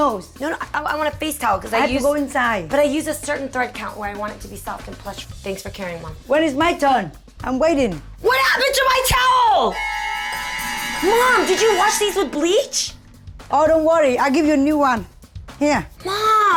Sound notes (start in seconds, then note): 8.1 yelling; 9.6 horror music